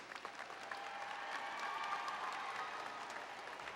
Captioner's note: applause and Cheering